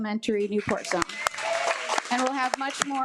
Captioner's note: attendees applaud